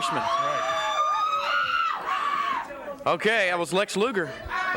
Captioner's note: crowd cheering